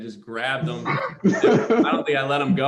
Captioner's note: laughter